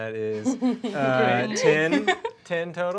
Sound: laughing

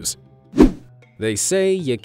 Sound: image whooshing

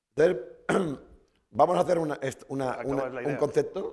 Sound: speaking spanish

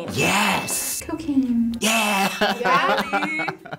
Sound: laughs

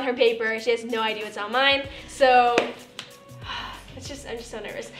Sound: sighs

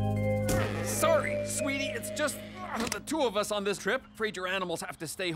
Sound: sighing

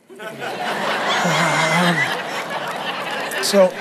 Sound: congregation laughs

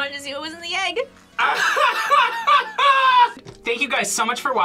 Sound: laughs

